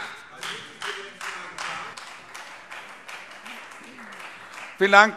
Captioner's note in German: Beifall Freie Demokraten